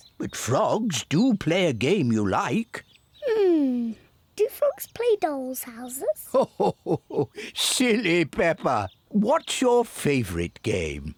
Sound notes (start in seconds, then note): 6.2 grandpa laughs